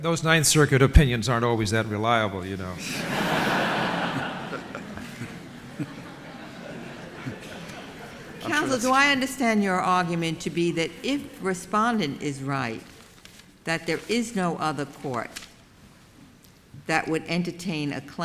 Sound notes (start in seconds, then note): 2.8 laughter